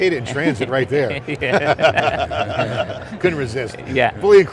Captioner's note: laughing